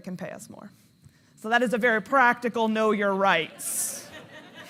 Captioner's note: audience laughing; laughs